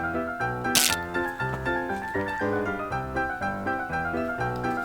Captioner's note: wires clattering; electricity buzzing